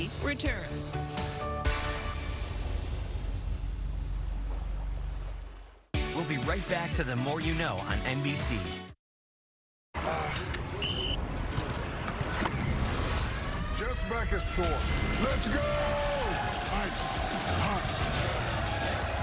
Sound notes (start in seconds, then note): 10.7 whistle blows; 18.6 chanting